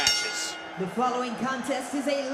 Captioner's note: bell rings